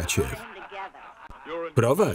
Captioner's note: laughing